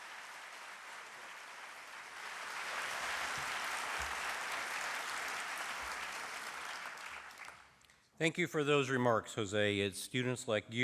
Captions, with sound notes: [ CHEERING & APPLAUSE ] >> THANK YOU FOR THOSE REMARKS, JOSE.